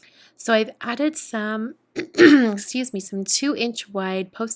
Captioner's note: coughs